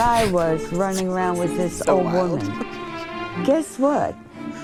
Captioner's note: laughs